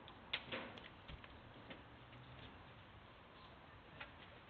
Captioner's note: heavy stone hitting soil